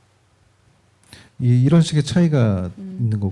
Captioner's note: speaking korean